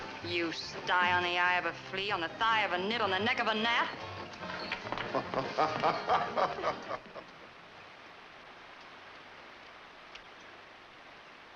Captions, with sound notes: You sty on the eye of a flea, on the thigh of a knit on the neck of a gnat! (Frenchy laughs)